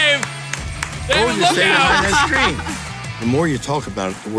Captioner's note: laughing